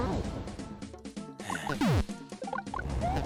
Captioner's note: sigh